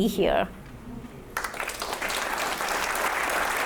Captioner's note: audience applauding